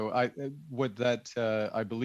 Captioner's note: chuckles